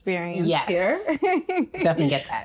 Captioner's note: laughing